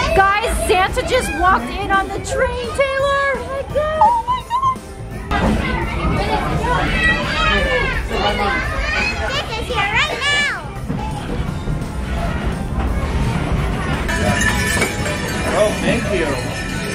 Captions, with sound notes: Guys, Santa just walked in on the train, Taylor! Oh my God! (kids chatting) - Santa is here right now. (bells jingling) - Oh thank you.